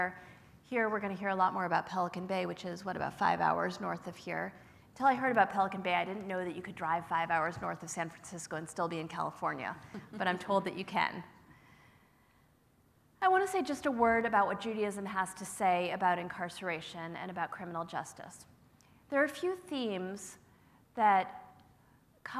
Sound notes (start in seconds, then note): 9.8 laugh